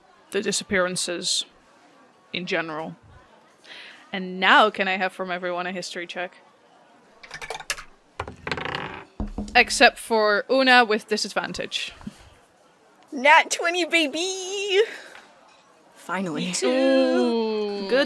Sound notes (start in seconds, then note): 7.2 good dice clickety clacks from all!; 12.2 audibly smiling